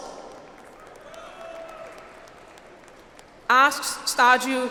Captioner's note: audience applauds